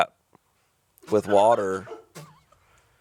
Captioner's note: chuckling